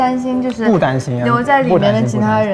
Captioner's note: confident